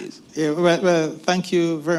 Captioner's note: laughs